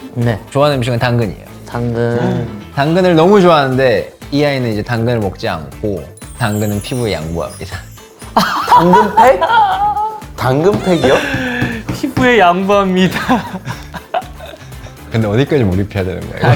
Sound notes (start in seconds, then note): 10.7 he laughs at himself